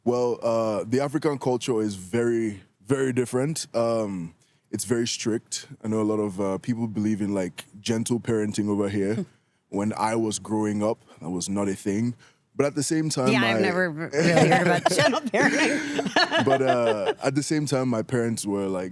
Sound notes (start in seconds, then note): 14.1 laughs